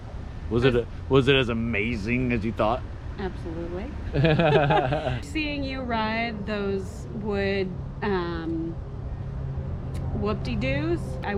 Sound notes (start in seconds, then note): 4.1 laugh